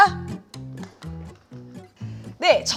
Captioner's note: clapping